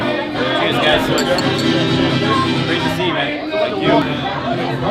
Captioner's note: clinking glasses